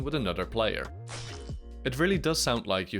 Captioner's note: Flying Guillotine impact